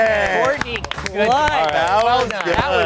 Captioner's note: everyone clapping